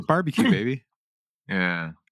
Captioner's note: clears Throat